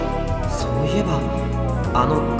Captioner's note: none